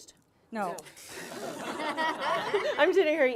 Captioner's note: laughing